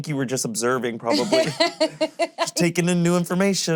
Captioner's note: laughing